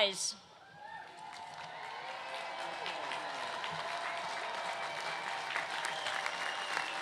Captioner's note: cheers and applause